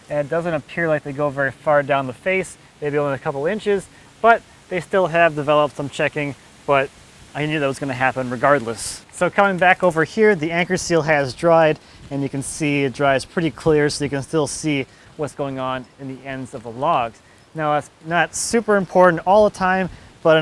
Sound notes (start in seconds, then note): none